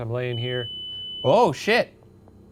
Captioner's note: light beeps